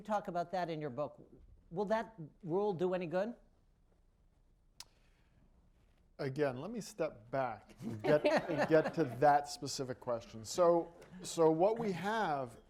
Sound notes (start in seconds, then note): 10.8 laughter